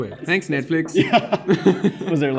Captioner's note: laughs